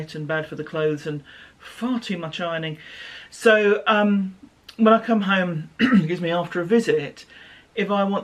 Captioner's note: coughs - excuse me